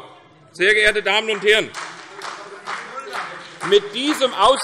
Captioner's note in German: Beifall CDU und BÜNDNIS 90/DIE GRÜNEN